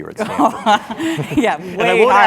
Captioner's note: laugh